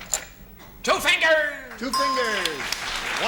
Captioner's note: ding